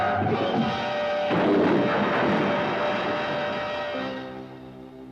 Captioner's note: car crashing; somber music